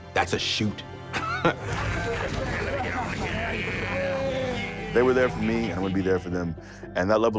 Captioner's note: laugh